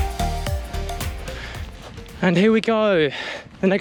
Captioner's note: gravel crunches